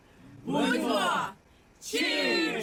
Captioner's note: cheers in Ukrainian